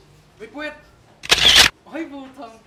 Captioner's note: camera shutter clicks